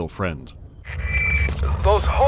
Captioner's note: radio screech